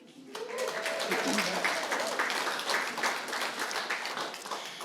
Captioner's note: applause